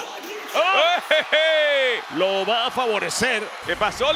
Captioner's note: laugh